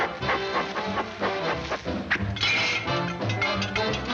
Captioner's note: air whooshing; Woody and cat clattering